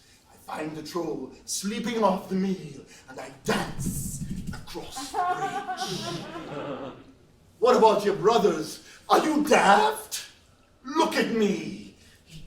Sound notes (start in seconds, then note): 4.7 laughs